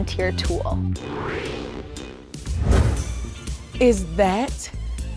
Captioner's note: graphics whooshing